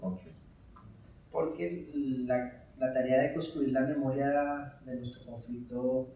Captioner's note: speaking in Spanish